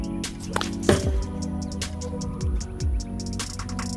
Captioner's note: loud thud